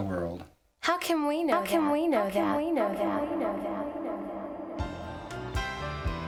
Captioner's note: echoing